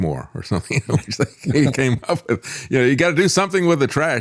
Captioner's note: laughs